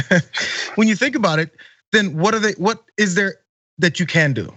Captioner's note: laugh